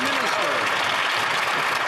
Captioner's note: some Applause